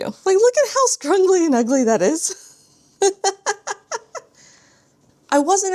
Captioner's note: laughs